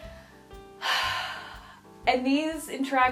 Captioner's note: sighs